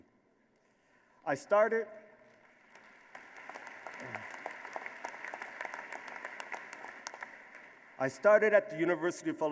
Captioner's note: applause